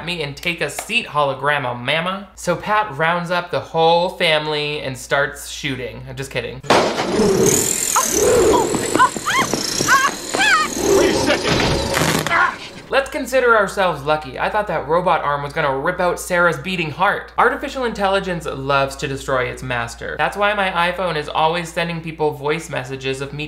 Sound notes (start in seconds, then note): 6.7 claw whirring; 6.9 flap thudding; 9.9 shrieks; 11.8 door handle buzzing